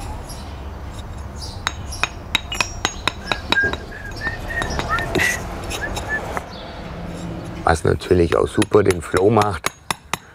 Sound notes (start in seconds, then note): 1.3 birds chirping; 2.9 whistles, traffic noise